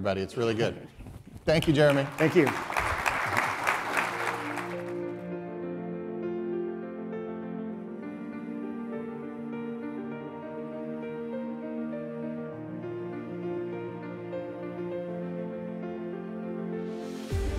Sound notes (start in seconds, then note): 1.5 audience applauding; 2.9 instrumental music